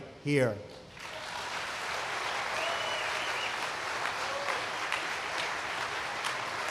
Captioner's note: applause